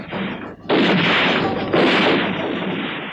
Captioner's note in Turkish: Silah sesleri